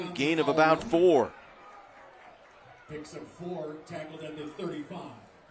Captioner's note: applause